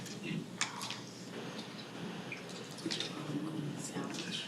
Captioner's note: people chattering